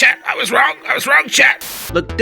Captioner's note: static